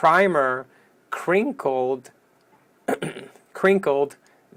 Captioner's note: coughs